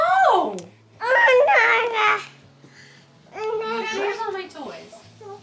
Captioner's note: babbles